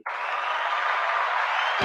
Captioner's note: applause